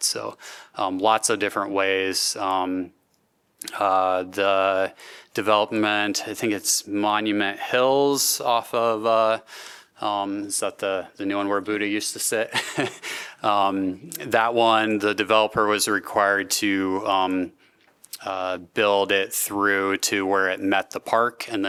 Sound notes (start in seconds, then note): 12.5 laughter